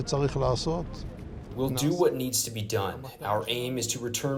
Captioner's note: through translator